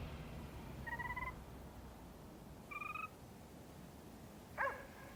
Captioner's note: car starting; car beeping; dog barking